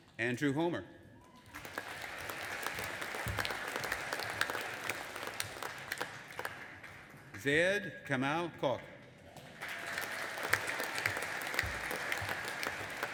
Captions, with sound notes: Andrew Homer. (AUDIENCE APPLAUDING AND CHEERING) Zaid Kamal Kokh. (AUDIENCE APPLAUDING)